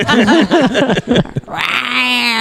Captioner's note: laughter